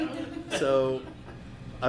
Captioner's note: laughing